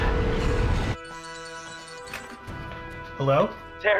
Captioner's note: phone Ringing